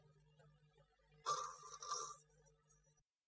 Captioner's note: snores